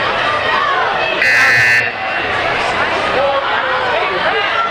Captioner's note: buzzing